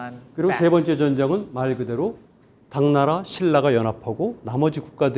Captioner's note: speaking in Korean